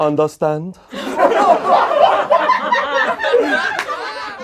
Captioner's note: laughing